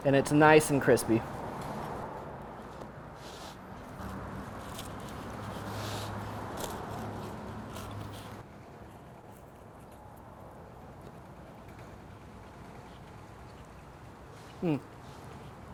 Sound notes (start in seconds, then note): 3.9 crust crunching; 4.2 pizza rotating; 12.4 chewing crunchy pizza